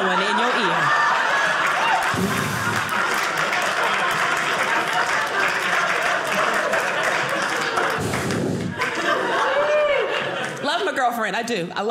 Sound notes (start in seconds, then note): 2.0 blows; 4.3 audience applauding